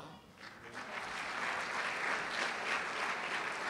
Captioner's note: applause